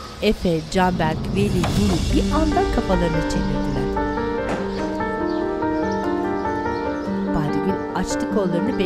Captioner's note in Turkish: Kuş cıvıltısı sesleri